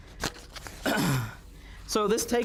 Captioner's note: instructor clears throat